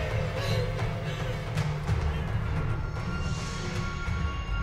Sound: sobbing

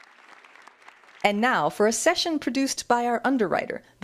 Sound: applause

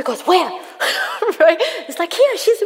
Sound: laughs

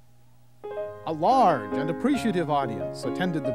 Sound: voiceover

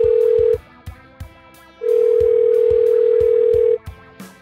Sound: phone dialing; phone dialing

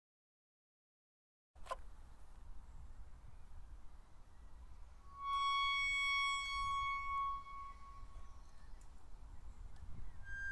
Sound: sound of eerie gate

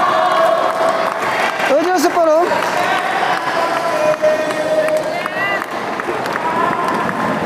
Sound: applause

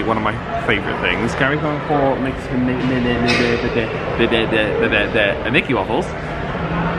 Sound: stuttering

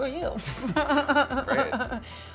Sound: Michelle laughs

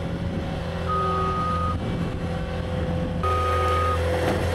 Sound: skid steer beeping

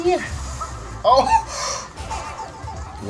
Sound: gasp

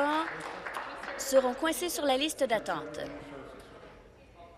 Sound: applause

